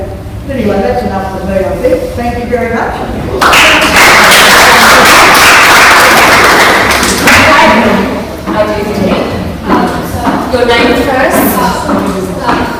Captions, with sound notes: Anyway, that's enough from me I think, thank you very much. *claps* Okay, our youth team, your name first please.